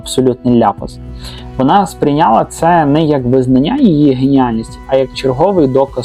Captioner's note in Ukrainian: сопіння